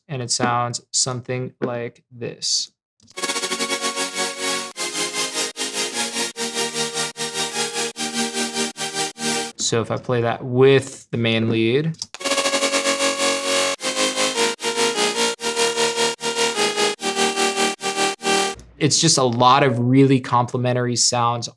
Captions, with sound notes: and it sounds something like this. (electronic music) So, if I play that with the main lead, (keyboard clicking) (electronic music) it is just a lot of really complimentary sounds,